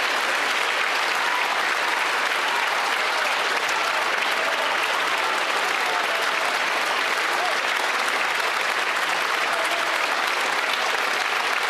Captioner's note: applause